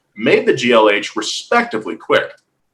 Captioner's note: none